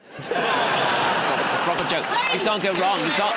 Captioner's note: laughter